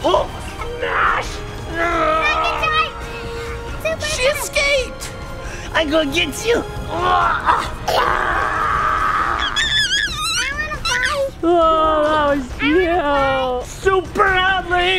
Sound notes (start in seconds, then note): 9.4 giggles